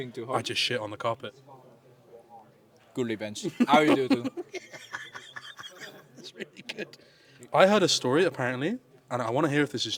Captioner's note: laughs